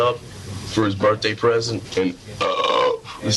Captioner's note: belches